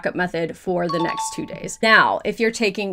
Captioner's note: question dings